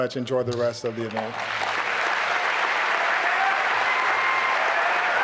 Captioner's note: applause and cheering